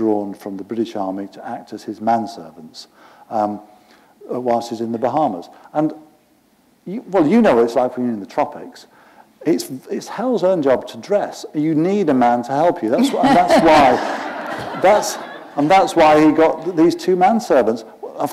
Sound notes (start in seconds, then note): 13.0 laughter